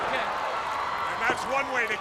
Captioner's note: crowd cheering